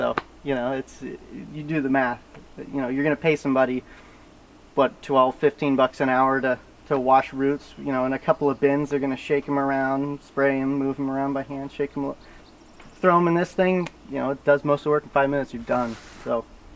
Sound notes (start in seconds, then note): none